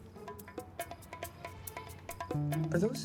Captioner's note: clack